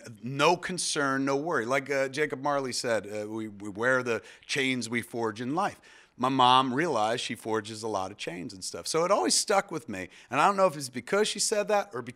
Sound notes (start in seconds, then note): none